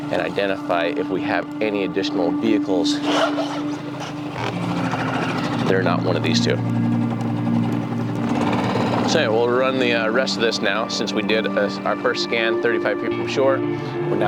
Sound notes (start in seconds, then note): 3.2 motor rumbling; 8.2 motor revving